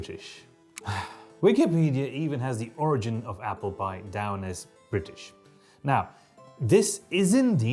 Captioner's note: sigh